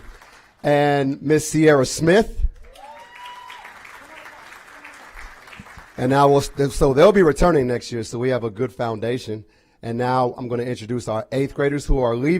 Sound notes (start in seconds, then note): 4.2 applause